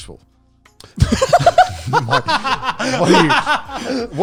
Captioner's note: laughs